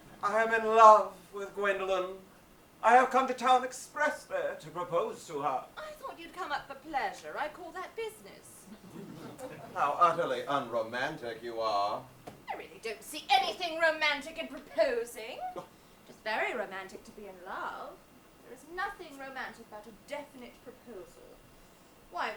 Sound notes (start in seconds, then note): 8.7 audience laughs